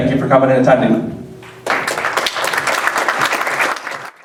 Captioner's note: applause